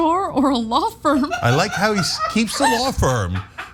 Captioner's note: laugh